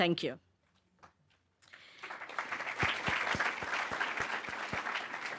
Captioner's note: audience clapping